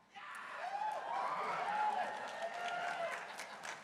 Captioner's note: crowd cheering